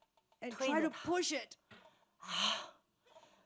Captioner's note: speaking Mandarin